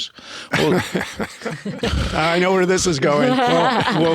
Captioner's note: laughing